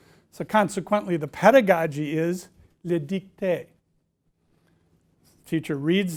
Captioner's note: speaking french